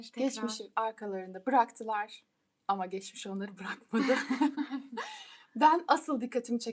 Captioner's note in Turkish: kahkaha